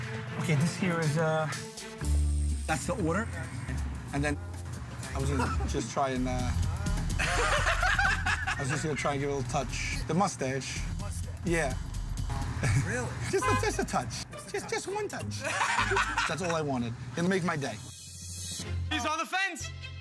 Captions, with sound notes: >> OKAY, THIS HERE IS, UH... THAT'S THE ORDER. AND THEN I WAS GONNA JUST TRY AND, UH... >> HUH? [ LAUGHTER ] >> I WAS JUST GONNA TRY AND GET A LITTLE TOUCH -- THE MUSTACHE. >> THE MUSTACHE? >> YEAH. [ CHUCKLES ] >> REALLY? >> JUST A TOUCH. JUST ONE TOUCH. [ LAUGHTER ] THAT'S ALL I WANTED. IT'LL MAKE MY DAY. >> HE'S ON THE FENCE!